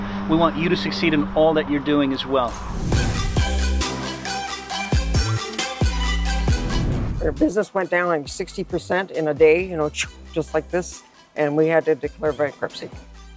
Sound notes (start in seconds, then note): 3.0 funky music; 10.2 swoosh